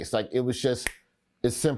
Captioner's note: Roy snaps